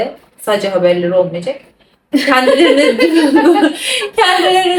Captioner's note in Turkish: kahkaha